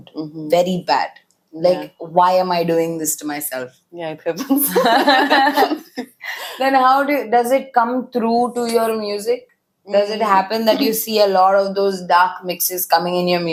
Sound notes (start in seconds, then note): 4.6 laughs